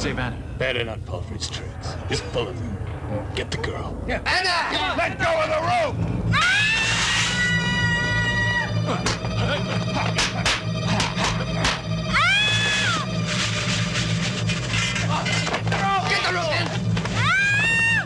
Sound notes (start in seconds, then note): 6.3 screaming